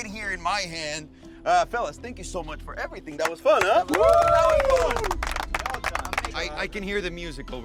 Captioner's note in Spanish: aplausos y vítores